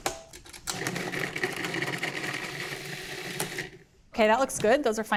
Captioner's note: processor whirring